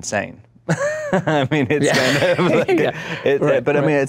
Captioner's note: laughs